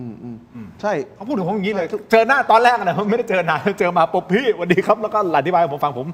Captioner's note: laughs